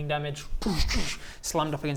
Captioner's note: doo doosch